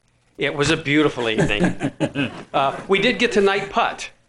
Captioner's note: laughing